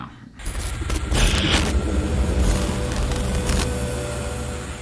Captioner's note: static whooshing